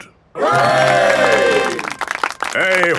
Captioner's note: clapping